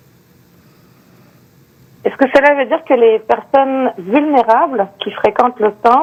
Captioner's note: speaking French